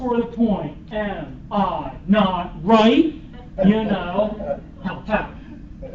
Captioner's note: laughter